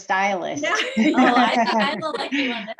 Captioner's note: group laughs